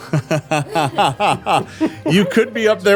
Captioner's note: laughing